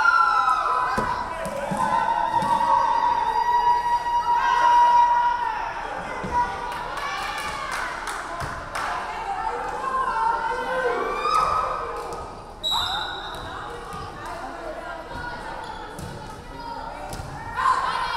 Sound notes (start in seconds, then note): 12.6 referee whistling